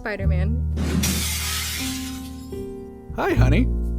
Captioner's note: glass shatters